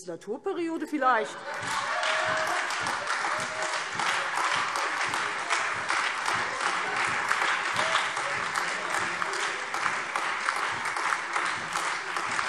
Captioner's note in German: Heiterkeit und lebhafter Beifall Freie Demokraten, SPD und AfD